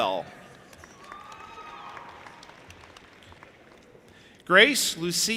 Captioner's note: audience applauding and cheering